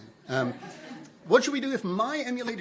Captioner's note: attendees chuckling